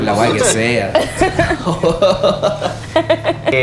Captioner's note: laughs